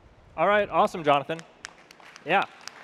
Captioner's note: audience clapping